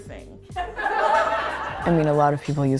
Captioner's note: laughter